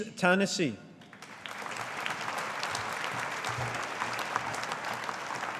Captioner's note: audience applauding